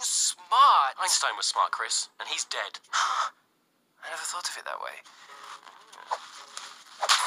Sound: G a s p

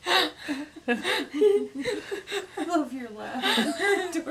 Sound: laughing

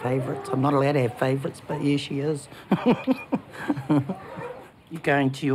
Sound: laughs

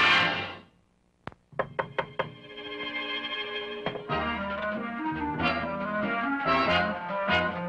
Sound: knocking on door; soft music

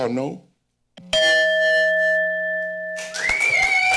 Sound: bell ring; applause

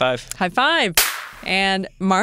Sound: high five sound

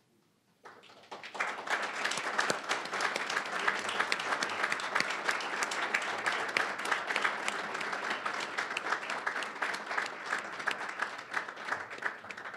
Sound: applause

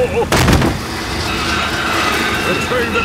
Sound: thud

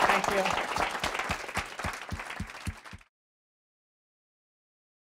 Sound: applause

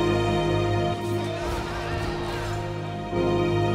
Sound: team Laughing

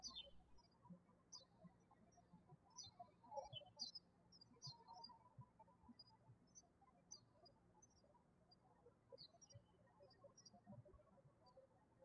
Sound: birds chirping

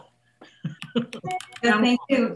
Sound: laughing

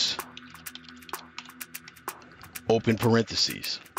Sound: keyboard keys typing

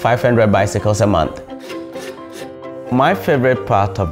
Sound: bamboo Scraping

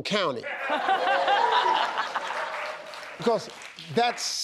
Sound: laughter

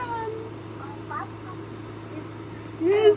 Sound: babbling

